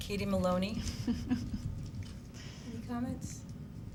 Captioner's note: quiet laugh